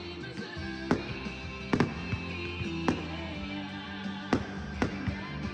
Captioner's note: firecrackers booming